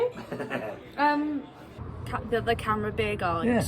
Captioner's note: chuckling